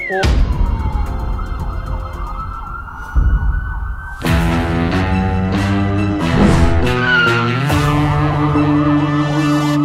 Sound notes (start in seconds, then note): 2.9 siren wailing